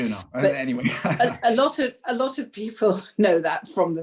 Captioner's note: laughter